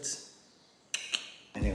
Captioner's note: clicks tongue